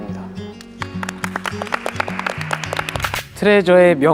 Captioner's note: clapping